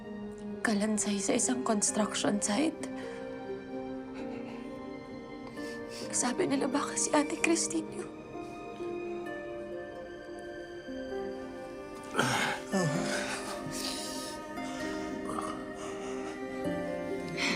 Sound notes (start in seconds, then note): 3.9 breath quivers; 12.0 groans; 13.0 sullen music continues